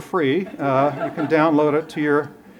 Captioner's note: laughter